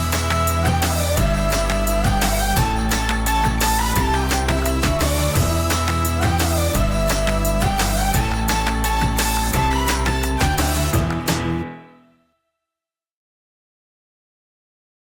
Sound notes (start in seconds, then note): 1.5 energetic music continues; 11.4 music stops